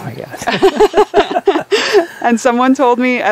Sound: both laughing

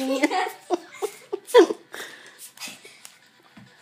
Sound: lots of laughing

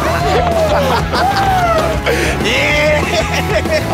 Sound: upbeat rock music; cheering

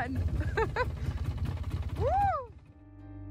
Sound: laughing

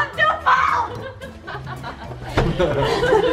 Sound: laughs

